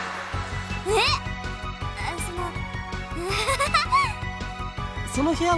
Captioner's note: awkward laugh